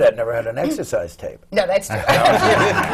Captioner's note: laughter